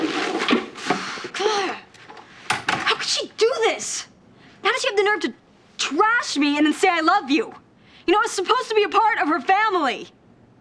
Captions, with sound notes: (GRUNTS) How could she do this? How does she have the nerve to trash me, and then say "I love you"? You know, I was supposed to be a part of her family.